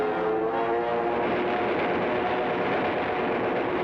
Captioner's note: guns fire